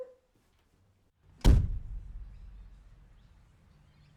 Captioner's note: slam